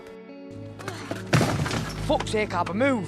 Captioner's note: thud